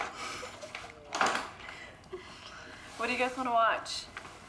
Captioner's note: laughter; door slams